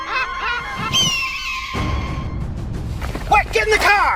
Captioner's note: gulls squawking; gull squawking loudly; dramatic music